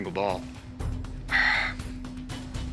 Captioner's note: sigh